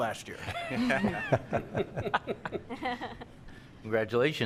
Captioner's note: crowd laughing